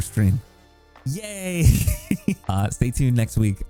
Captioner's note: laughs